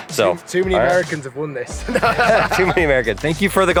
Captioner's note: laughs